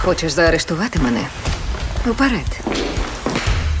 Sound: shoes clatter

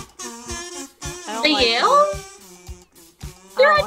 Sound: quietly

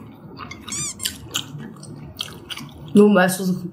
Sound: chewing the rest

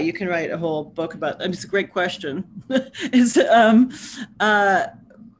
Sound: laughs

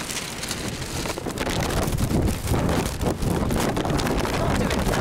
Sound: wind

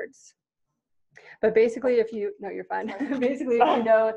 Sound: laughing

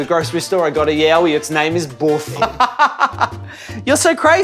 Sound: laughing

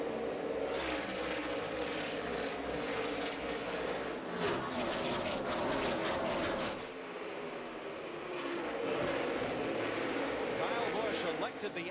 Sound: engines roar

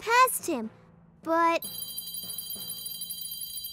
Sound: bells ringing

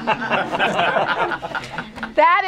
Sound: laughter

